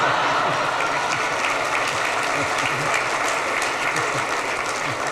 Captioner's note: audience applauds; audience laughs